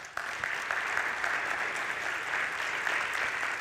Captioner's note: applause